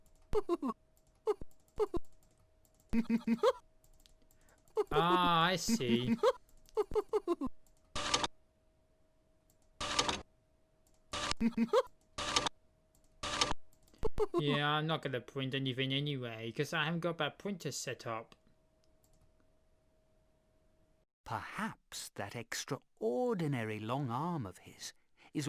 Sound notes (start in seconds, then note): 0.2 mr tickle chuckling; 7.8 printer sound; 9.7 printer sound; 12.1 printer sound